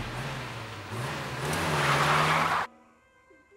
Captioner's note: engine revs